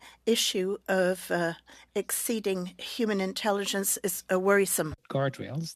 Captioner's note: speaking French